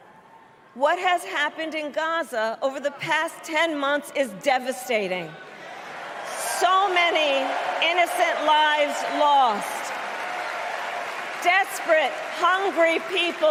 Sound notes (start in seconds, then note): 4.9 applause